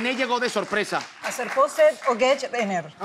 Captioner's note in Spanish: Habla al revés